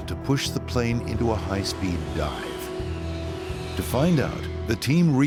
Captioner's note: airplane engine roaring